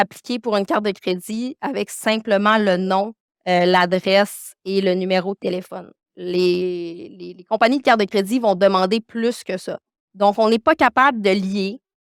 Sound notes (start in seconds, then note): 4.6 continues speaking French